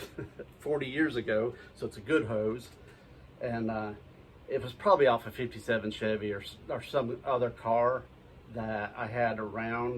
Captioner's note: laughing; laughing